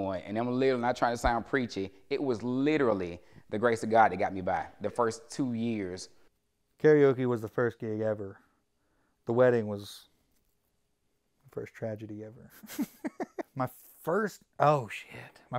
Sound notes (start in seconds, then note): 12.6 laugh